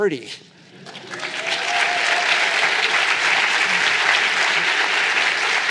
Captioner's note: cheers, applause